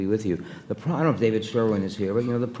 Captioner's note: none